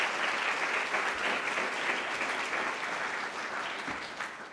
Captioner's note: applause